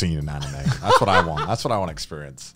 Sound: laughing

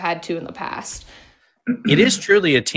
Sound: clears throat

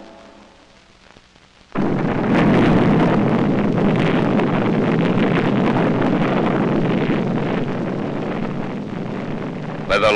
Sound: loud rumbling

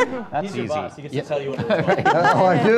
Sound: audience laughter; laughing

